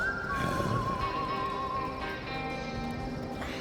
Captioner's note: zombie walter grumbling